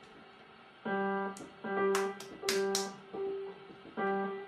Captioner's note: child continues playing piano; child continues clapping